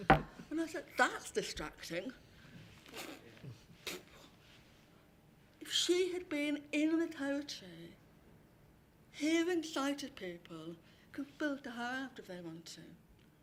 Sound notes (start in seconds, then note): 2.9 makes whoosh noises to mimic audience member